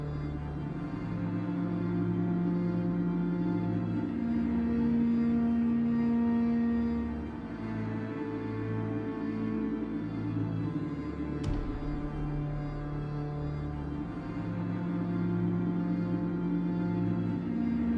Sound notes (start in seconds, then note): 11.4 gunshot blasting; 13.6 tense orchestral music continues